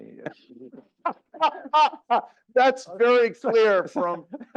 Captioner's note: laugh